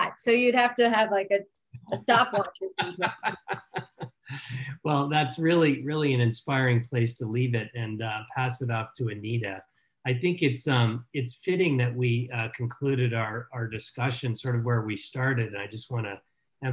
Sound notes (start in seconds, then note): 4.9 laughing